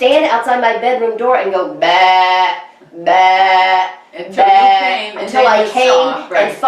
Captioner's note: making sheep sound